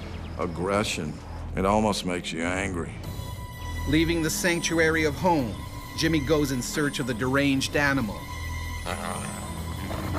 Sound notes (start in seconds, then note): 4.1 voiceover